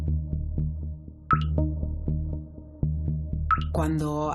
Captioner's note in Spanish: Sonido de gotas